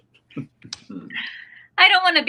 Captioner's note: Stan chuckles